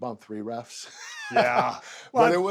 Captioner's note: laugh